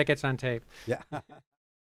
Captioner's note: laughter